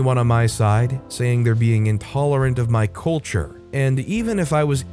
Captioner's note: slur